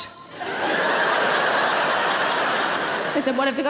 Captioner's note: audience laughing